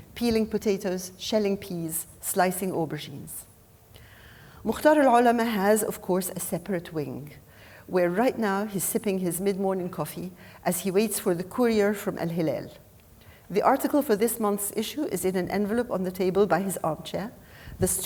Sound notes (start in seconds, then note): 5.0 speaking Arabic name